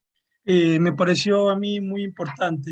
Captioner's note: speaking Spanish